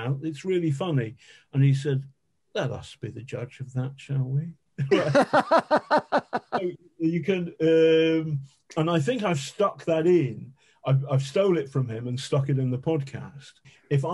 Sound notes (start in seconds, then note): 4.8 laughing